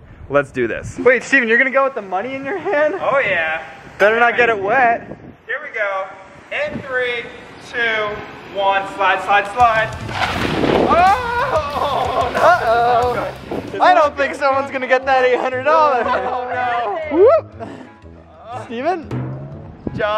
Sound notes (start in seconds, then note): 10.8 cheering; 17.5 whooping